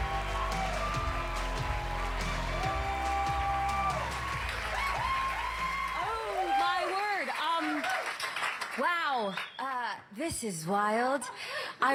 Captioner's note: cheers and applause